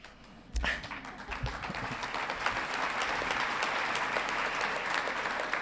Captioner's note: audience clapping